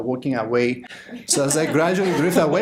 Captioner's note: audience laughter